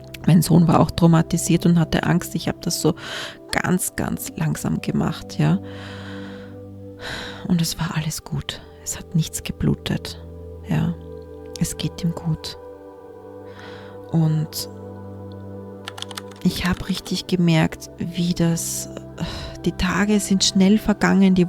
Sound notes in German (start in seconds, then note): 5.6 japst; 5.7 seufzt